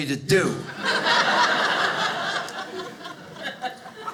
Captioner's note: audience laughing